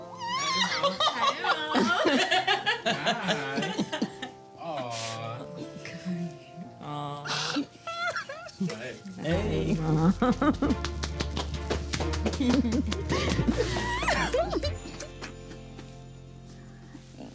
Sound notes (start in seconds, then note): 0.3 all laughing; 7.2 crying